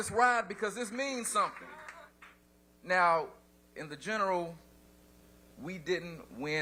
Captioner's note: applause